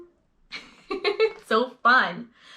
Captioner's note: laughing